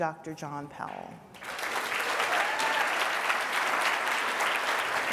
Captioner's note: applause